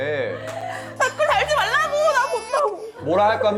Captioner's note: cries